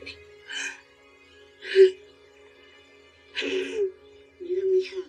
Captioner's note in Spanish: Sollozos